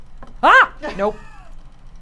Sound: screams

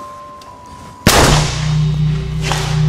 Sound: gunshot

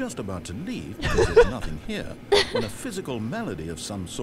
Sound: laughs

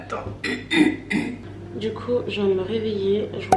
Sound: clear throat

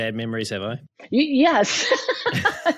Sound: laughs

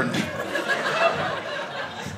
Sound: audience laughing

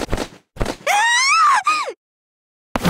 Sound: scream

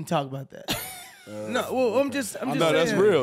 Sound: chuckles

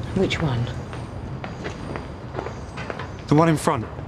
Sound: shoes clacking

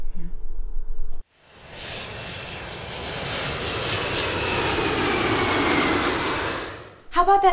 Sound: plane sounds

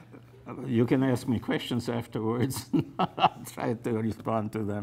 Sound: laughs

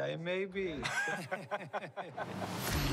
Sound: chuckles; both chuckle

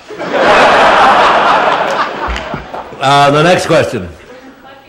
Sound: laughter

